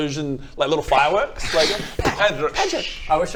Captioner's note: sssh poof